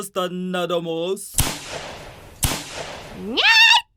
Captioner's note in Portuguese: Ouvem-se dois tiros, distantes